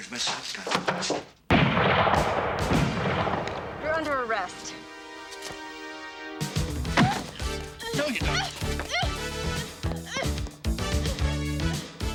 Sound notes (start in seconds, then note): 1.5 gun firing; 6.6 body thudding; 7.8 girls squealing; 9.4 upbeat music